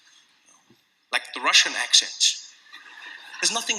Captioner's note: laughter